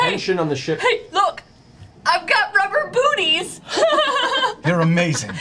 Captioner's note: laughs